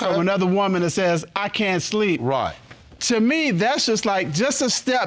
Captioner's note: none